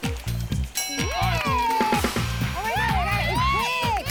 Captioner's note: bell dings